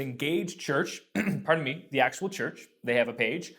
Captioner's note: clears throat